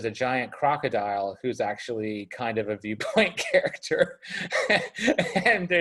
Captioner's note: laughs